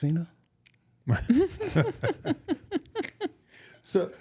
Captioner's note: chuckling